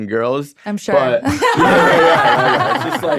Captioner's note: all laughing